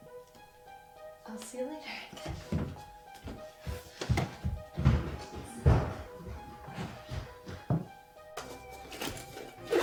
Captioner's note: rummaging